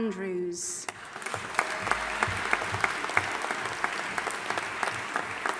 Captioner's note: audience applauding